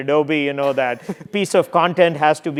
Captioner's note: laugh